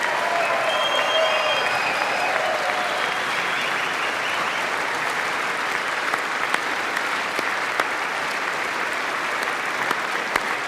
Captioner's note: applause